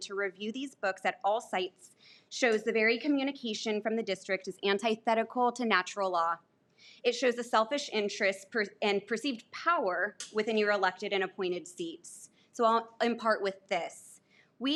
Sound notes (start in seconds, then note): none